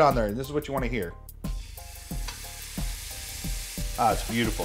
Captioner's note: steak sizzling